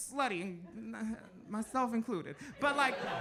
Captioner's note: audience laughs